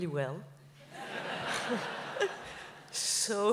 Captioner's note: laughs